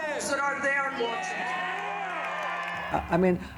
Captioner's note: crowd cheers